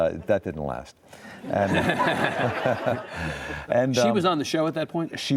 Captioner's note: audience laughs